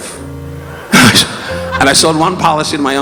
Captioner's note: audience laughing